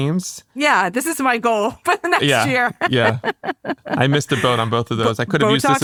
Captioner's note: laughs